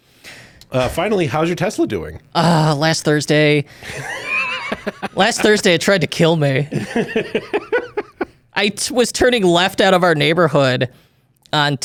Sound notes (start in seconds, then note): 3.8 laughs